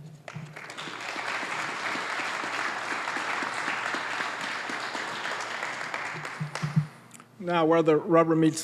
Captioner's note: applause